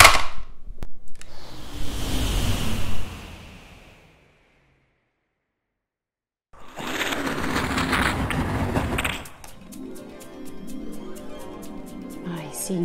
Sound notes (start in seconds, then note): 1.2 Windy sound of Buzz taking off; 6.3 Windy sound of Buzz landing